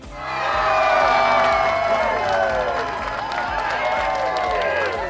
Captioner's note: crowd cheering and clapping